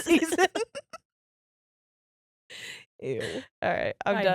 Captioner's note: laughing